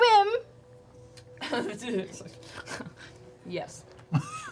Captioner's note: chuckles